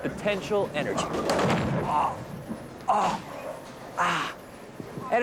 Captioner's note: groaning